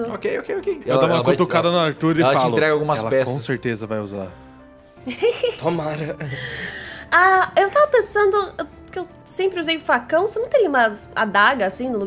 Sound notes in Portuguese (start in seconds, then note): 5.0 risada